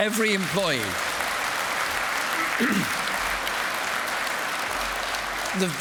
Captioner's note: applause